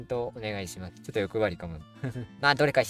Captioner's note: laughs